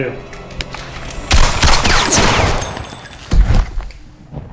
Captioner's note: shots fired